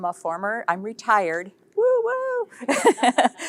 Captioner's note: chuckles